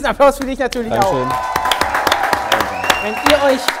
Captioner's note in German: Jubel, Pfiffe